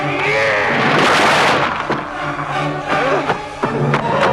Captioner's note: intruder growls